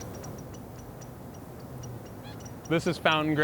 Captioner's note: birds chirping